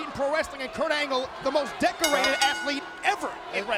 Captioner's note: bell ringing